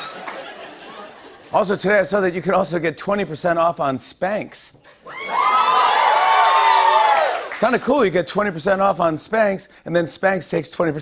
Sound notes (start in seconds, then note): 5.0 cheers and applause